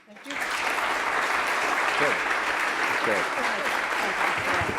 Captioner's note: applause